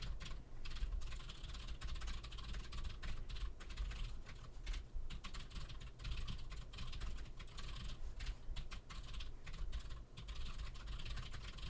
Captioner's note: typing sounds